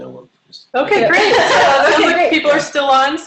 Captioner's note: laughter